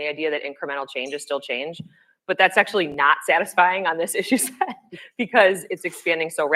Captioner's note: laughs